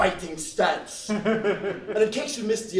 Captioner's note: laughs